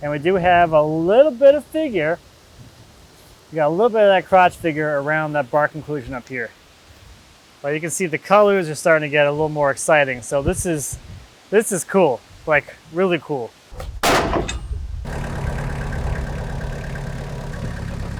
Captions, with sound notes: And we do have a little bit of figure. We got a little bit of that crotch figure around that bark inclusion up here. Well, you can see the colors are starting to get a little more exciting. So this is cool. Like really cool. (slab thuds loudly) (engine revving)